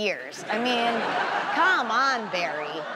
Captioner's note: audience laughs